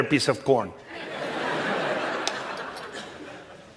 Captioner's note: laughter